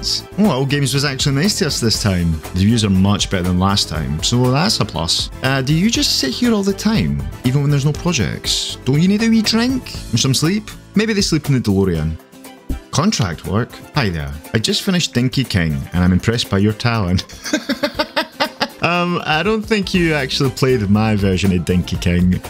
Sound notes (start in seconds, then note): 17.2 laughing